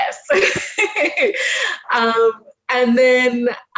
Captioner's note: laughs